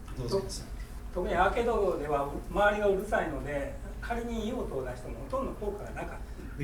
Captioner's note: speaking in foreign language